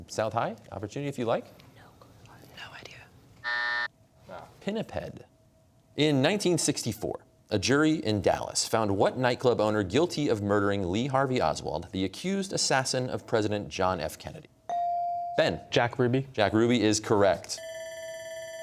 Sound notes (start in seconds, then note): 1.6 whispering; 3.4 buzzer; 17.6 bell ringing